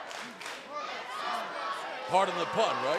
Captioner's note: fans chanting